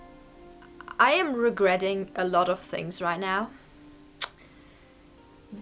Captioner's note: clicks tongue